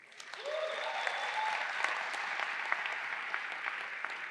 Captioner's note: crowd applauds